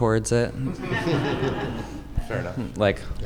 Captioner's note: audience laughing